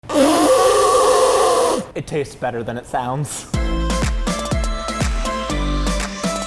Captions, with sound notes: (blowing into food) - It tastes better than it sounds. (upbeat music)